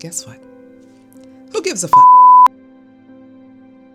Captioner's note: beep